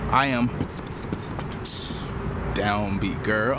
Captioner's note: beatboxing